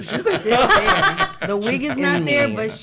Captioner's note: laughing